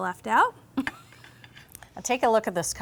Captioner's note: laughing